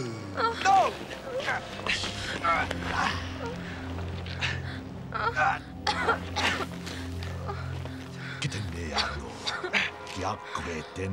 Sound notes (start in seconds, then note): 5.1 coughing; 9.1 non-english speech